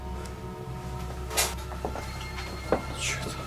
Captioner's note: knock